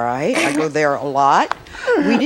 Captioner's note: laughs